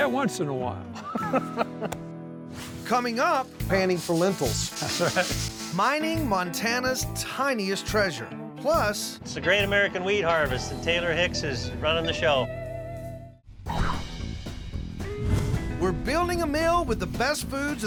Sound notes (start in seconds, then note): 0.9 both laughing